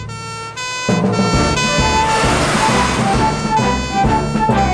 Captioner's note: siren Blares; heroic Music